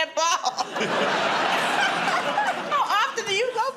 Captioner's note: laughter